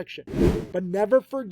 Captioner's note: video whooshing